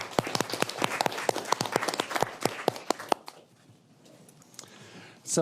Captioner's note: applause